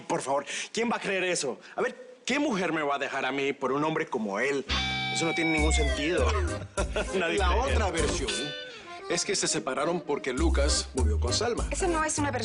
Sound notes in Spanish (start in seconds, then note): 4.8 Ríe